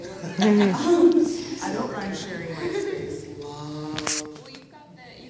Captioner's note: laughter